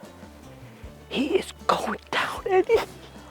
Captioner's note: whispers